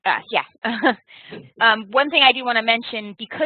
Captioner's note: laughing